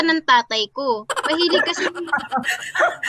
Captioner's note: laughing